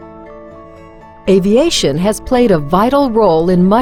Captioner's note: voiceover